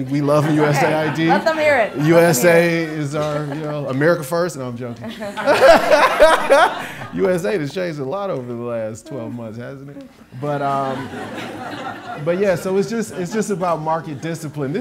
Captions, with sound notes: We love U-S-A-I-D, USA is our, you know, America first, no I'm joking! (laughter) USAID has changed a lot over the last 12 months, hasn't it? (laughter) But yeah, so it's just about market discipline.